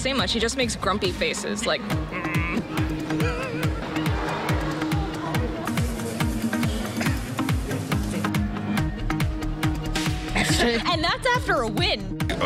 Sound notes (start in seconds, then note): 2.0 grunting